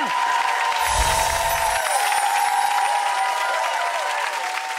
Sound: audience cheering

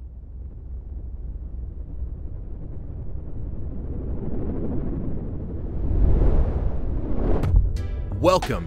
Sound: rumbling sound effects

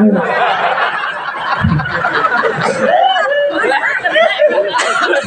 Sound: laughs

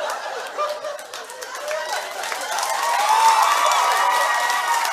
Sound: applause from the audience

